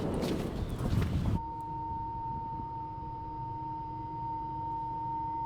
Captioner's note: searing high pitched tone